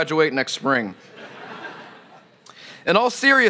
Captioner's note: laughter